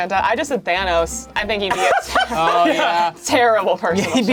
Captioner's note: laughs